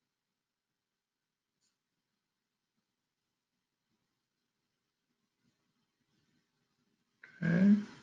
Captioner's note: pause